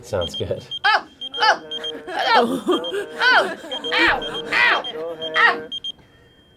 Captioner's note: laughing; alarm chiming; shrieking